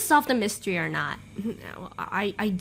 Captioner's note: stutters